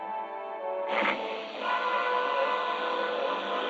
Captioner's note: engine starting